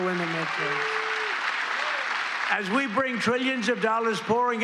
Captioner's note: applause